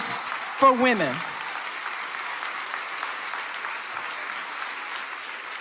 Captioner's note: audience applauding